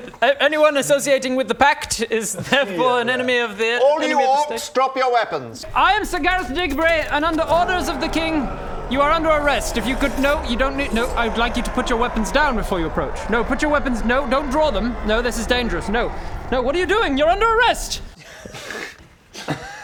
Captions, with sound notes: Anyone associating with The Pact is therefore an enemy of the - all you orcs drop your weapons - enemy of the state I am Sir Gareth Digbury and under orders of the King *grrr* You are under arrest - if you could...no you don't need - *battle noises* no I would like you to put your weapons down before you approach no put your weapons no don't draw them no this is dangerous no no what are you doing? You're under arrest!